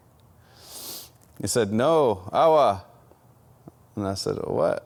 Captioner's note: speaks foreign language